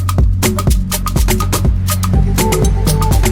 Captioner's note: ocean and bird sounds; upbeat music